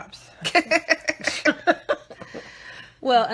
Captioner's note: laughing